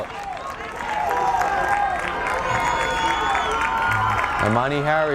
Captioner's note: crowd cheers